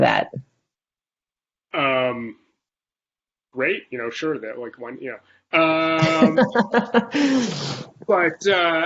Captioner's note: laughter